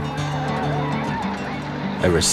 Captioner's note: battle cry